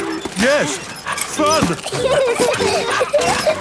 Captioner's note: straining; peppa and george laughing